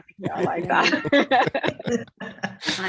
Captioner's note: laughter